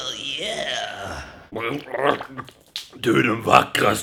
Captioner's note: swedish noises